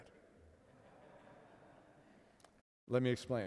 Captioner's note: audience laughs